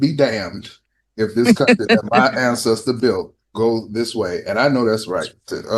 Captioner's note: laughter